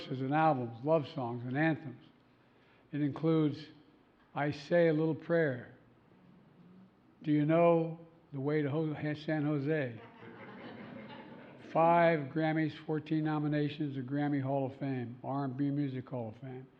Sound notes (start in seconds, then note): 10.0 laughter